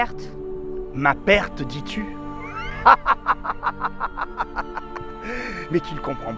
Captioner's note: laughing